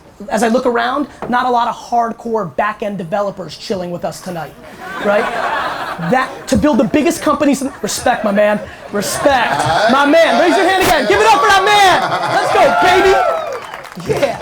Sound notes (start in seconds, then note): 5.4 audience laughter